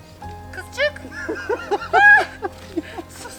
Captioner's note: they laugh